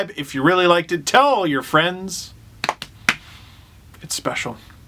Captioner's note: clap